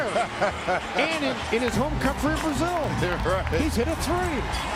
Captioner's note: laughing